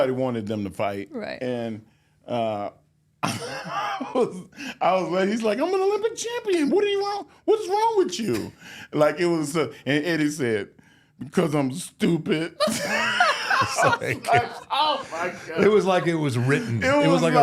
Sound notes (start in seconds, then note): 4.1 laughs; 12.6 all laugh